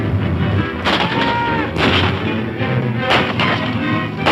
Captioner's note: guns firing